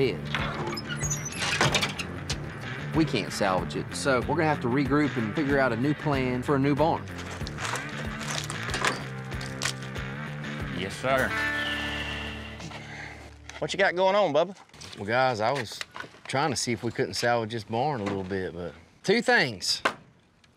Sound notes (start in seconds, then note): 0.4 creaking thud; 7.0 wood crumbling